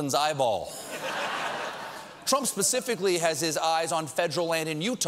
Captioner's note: laughter